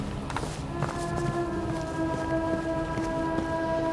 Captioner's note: running footsteps